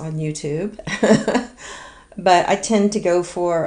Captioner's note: laughs